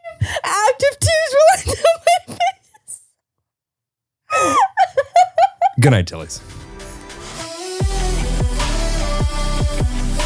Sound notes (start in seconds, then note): 4.3 laughing; 7.6 upbeat music